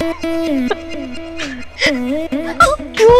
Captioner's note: Giggling